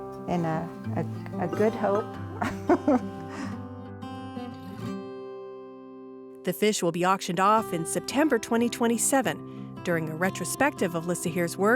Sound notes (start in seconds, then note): 2.3 laughs